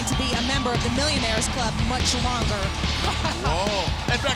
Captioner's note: laughs